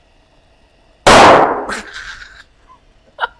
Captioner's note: explosion